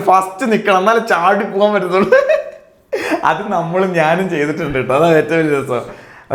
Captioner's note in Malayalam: പൊട്ടിച്ചിരി